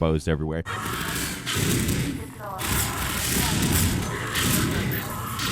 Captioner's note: Gravity Gun whooshes and whirs